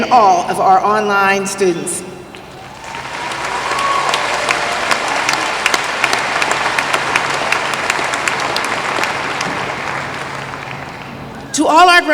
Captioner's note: applause